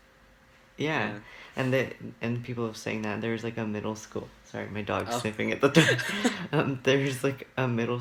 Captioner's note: laughs